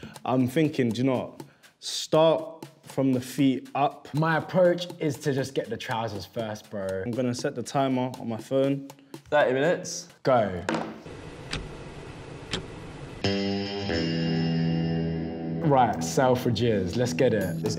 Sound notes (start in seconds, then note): 11.4 ticking; 13.2 rock guitar